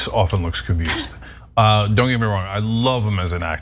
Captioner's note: laugh